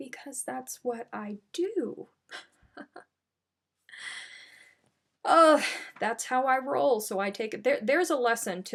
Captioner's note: chuckles